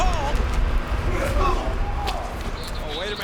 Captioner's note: Rikishi groans; Steve grunts